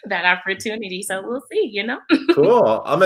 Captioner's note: laughs